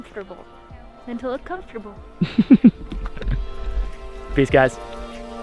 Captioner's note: laughs